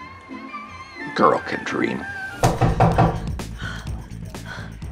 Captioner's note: knocking